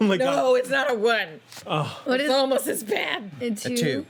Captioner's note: sighs